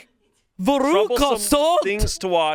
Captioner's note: speaks in foreign language